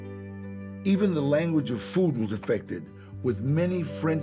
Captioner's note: in English